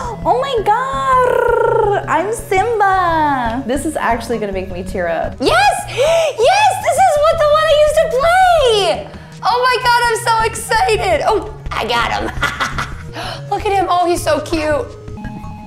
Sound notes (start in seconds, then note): 0.0 low electronic music; 12.2 laughs